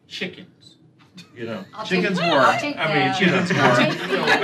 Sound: laughter

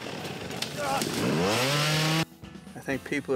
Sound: engine revving

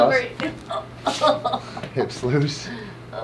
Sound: bones cracking

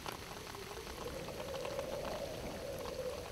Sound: wind

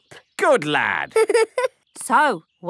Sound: giggling

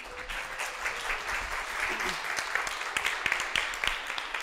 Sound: audience clapping

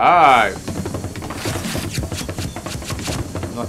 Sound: rattling sound

